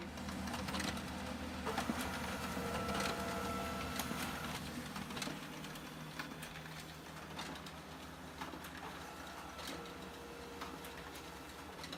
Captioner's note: printer whirring